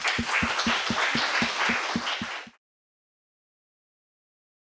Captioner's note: audience applauding